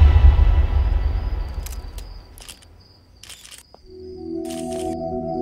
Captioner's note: Camera clicks